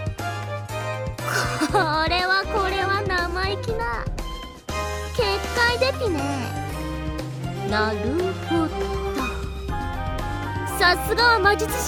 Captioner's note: giggle